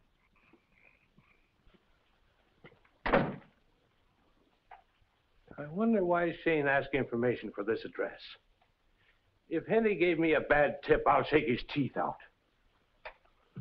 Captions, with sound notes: (door slams) - I wonder why Shayne asked information for this address. If Henty gave me a bad tip, I'll shake his teeth out.